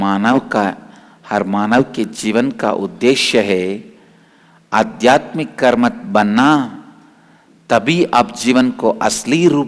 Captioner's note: hindi